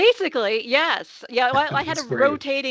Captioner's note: chuckling